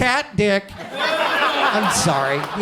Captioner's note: audience laughs